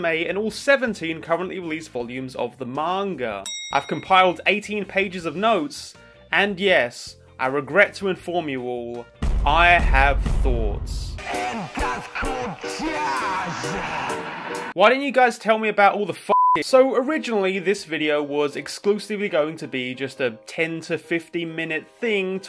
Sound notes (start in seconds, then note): 12.2 upbeat music; 16.3 beep